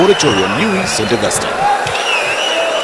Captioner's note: wild applause and cheering for 22 seconds